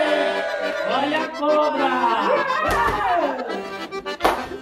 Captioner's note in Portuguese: Som de comemoração; Som de espanto